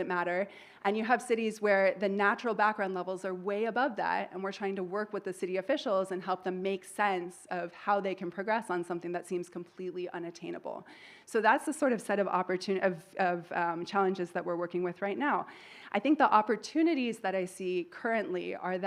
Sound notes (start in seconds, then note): none